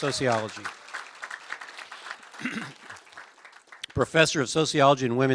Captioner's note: applause